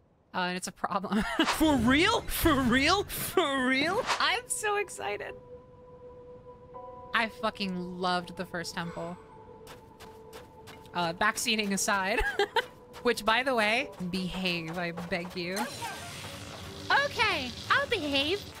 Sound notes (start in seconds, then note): 15.6 Riju yells “OKAY!”